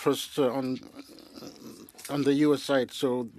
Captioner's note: speaking French